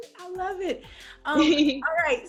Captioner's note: Dixie laughing